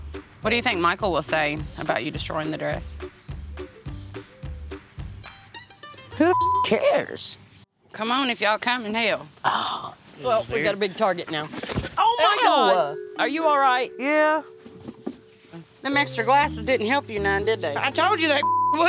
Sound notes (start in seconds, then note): 11.6 thud